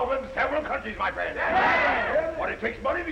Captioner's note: all chattering